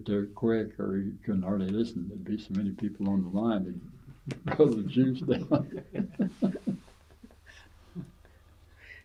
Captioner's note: laughter